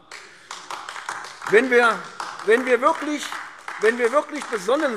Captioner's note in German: Beifall AfD